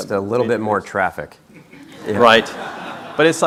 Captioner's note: crowd laughing